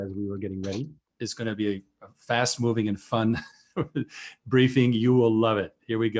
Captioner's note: laughing